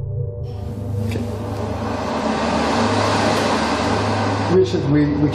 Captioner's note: spooky music; hand dryer roaring